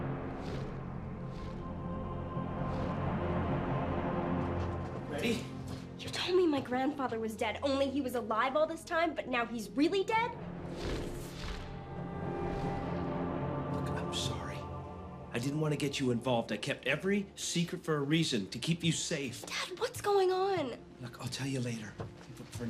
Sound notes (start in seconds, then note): 0.0 foreboding music; 0.3 distant wings flapping; 10.4 atmosphere whooshing